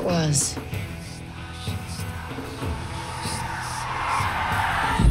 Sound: haunting whispering

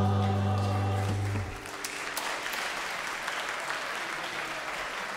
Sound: congregation clapping

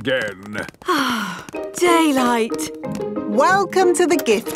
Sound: sighs

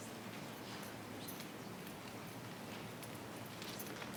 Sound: speaking faintly

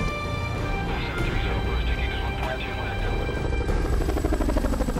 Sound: radio chattering

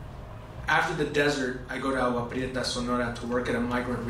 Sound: spanish

